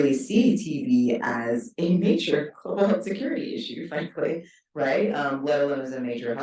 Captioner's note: chuckles